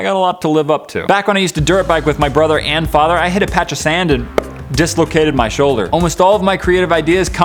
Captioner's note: pop